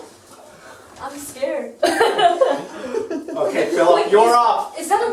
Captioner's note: laughter